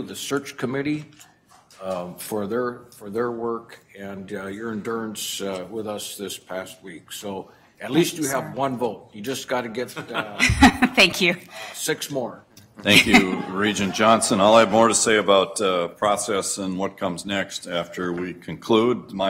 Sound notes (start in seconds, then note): 9.9 laughter